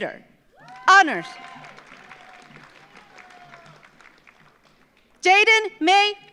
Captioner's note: audience cheers; audience applauds